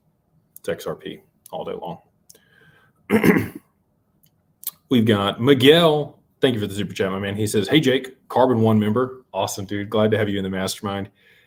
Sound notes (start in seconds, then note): 3.1 clears throat